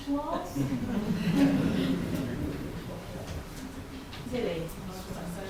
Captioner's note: audience laughs